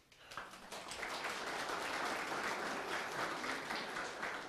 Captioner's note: audience applauds